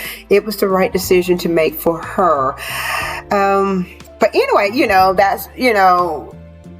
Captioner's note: sighs and gasps